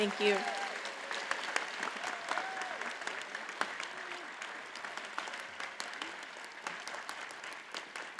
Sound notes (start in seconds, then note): 0.0 audience cheers and applauds